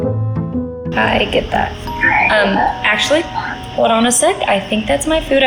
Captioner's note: doorbell rings